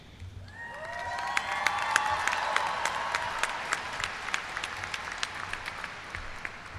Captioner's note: cheers and applause